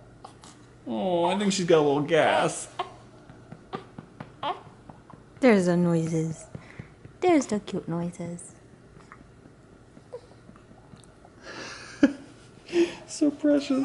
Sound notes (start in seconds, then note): 2.7 cooing and grunting adorably; 9.1 cutest yawn; 11.5 chuckles